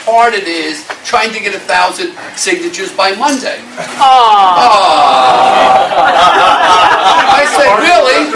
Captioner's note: awws, laughter